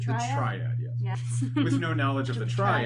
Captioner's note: both laugh